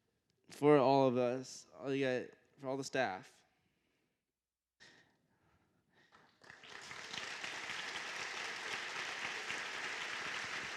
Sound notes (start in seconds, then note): 6.0 applause